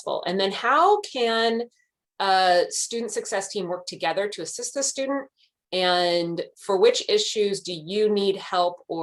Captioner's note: none